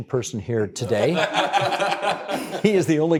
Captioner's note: all laughing